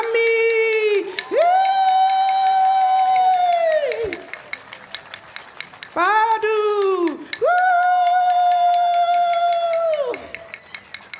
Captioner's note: applause